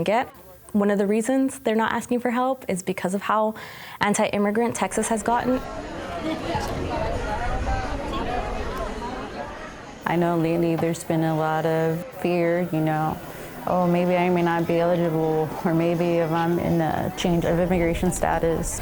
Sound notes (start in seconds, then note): 5.6 crowd noises